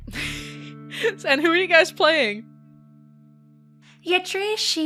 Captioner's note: laughs